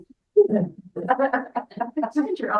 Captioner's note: speaks faintly; members laughing